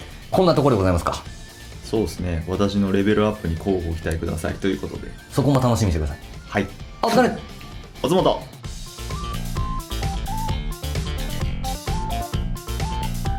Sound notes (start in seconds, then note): 6.6 laughs